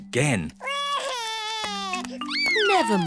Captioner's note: sobs